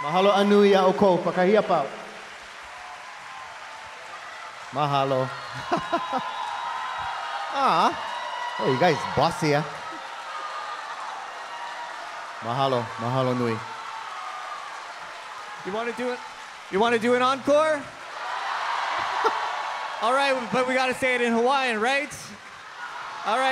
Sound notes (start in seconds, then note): 0.0 audience cheering and applauding; 0.2 speaking in Hawaiian; 5.7 audience cheering; 12.6 speaking in Hawaiian; 18.7 audience cheering